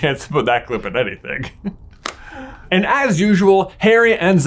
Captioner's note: laughs